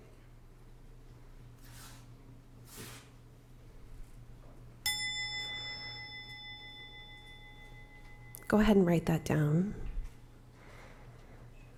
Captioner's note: bell chiming